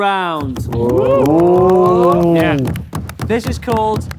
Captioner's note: group cheers